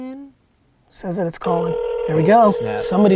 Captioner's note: phone ringing